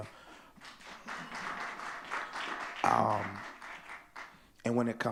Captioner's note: audience clapping